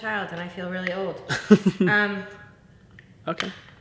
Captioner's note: laughs